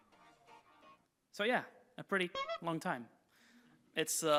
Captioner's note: horn toots